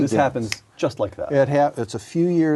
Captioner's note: multiple voices speaking